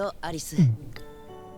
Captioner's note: gulp